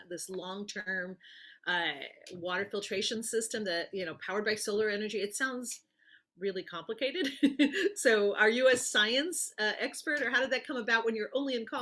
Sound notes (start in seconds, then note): 7.5 laughs